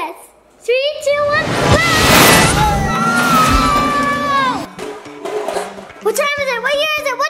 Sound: screams

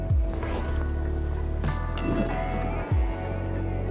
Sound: net swishes

